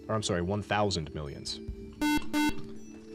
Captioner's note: beep